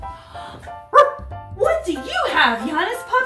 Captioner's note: Janus puppy barks